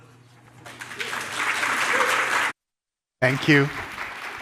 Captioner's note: audience applauding